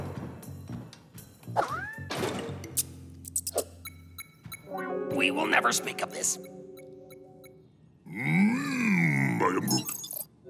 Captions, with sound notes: (SQUEAKING) (BEEPING) We will never speak of this. (BEEPING CONTINUES) Mmm. I am Groot.